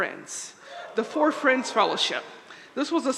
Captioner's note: audience cheering